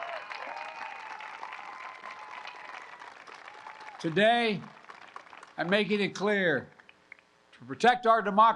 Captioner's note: applause